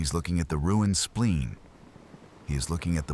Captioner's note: wind Blowing